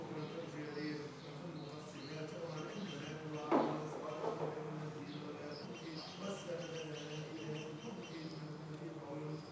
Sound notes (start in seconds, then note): 0.7 chanting in a foreign language; 2.4 birds chirping